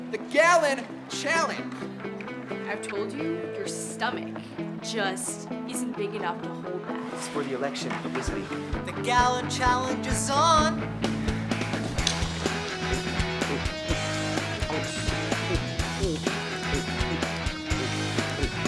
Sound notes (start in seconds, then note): 11.4 lively music; 12.6 Ezra gulping